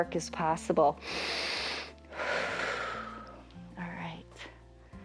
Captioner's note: inhales and exhales